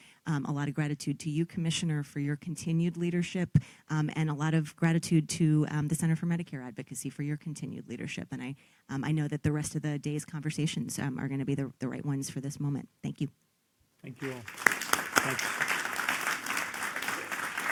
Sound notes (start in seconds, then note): 14.1 applause